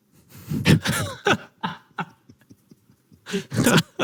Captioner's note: both laugh